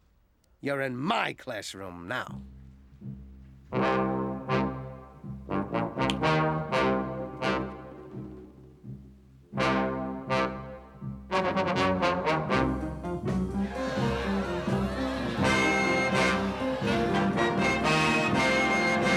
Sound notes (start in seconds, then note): 6.0 snaps fingers; 12.7 background crowd noise